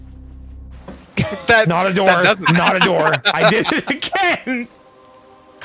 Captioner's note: immediate laughter; laughter continues